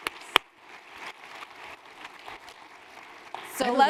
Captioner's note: applause